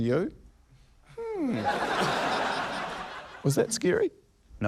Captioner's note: laughter